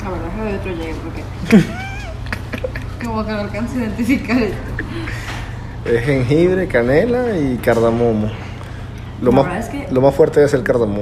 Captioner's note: laugh